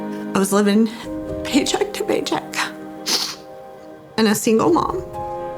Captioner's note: sniffs